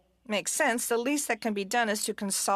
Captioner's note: speaking french